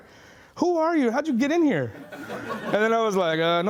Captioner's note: laughing